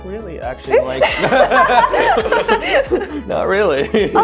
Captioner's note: both laughing